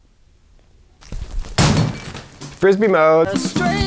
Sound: phone crashing

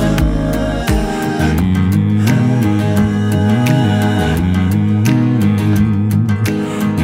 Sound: humming in harmony; fingers snapping

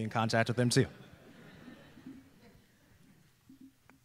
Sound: laughter

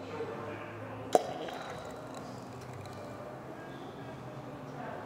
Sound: wine pouring

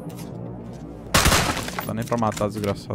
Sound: shots

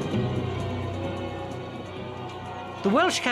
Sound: bells clanging; suspenseful music; bells clanging

